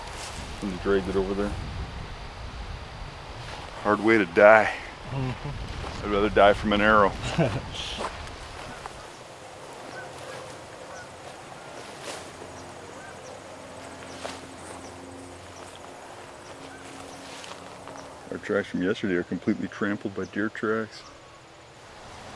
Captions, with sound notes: Then dragged it over there. hard way to die I'd rather die from an arrow (wind/birds) our tracks from yesterday are completely trampled by deer tracks